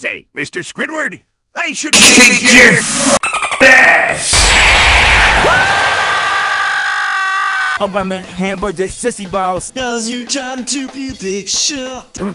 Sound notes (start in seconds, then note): 4.4 smash